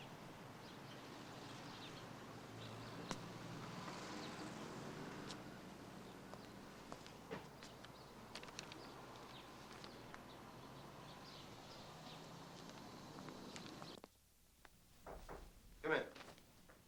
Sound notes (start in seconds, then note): 15.0 light knocking